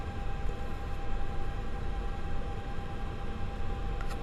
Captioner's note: fan running